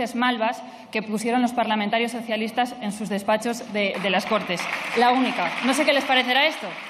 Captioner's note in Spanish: Aplausos